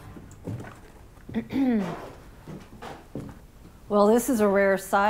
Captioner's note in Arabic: ينظف الحلق